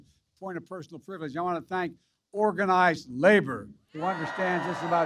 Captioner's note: applause